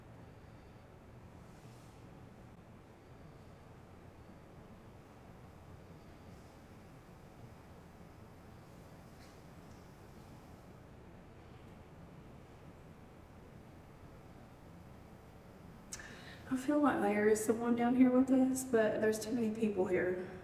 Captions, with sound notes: [Silence] [Silence] I feel like Larry is the 1 down here with us, but there's too many people here.